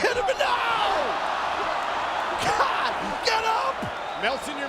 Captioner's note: laugh